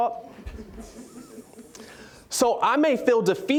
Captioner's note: audience chuckling